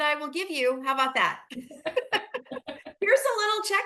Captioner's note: laughter